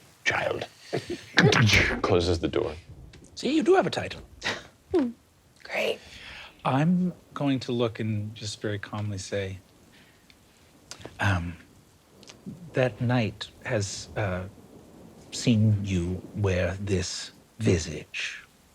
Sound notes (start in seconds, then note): 1.5 imitates door latching; 4.9 laughing